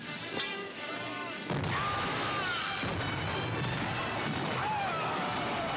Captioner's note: men shouting; flasks booming